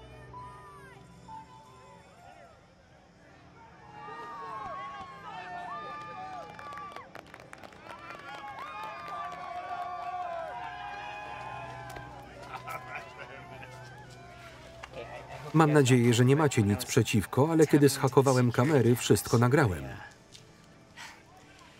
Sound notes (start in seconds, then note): 4.9 applause; 12.3 laughing